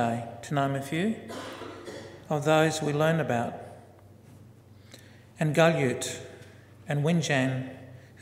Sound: foreign word spoken

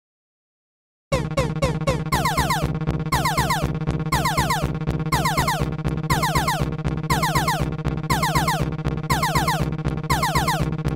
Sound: sound of emergency tones

